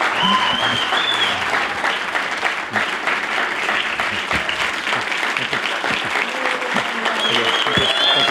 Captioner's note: cheers and applause